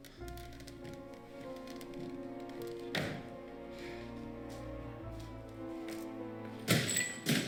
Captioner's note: loud banging, clatter